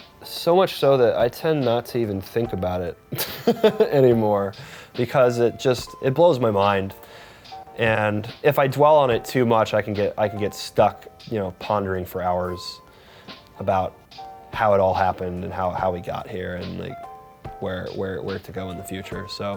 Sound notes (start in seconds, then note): 3.1 chuckles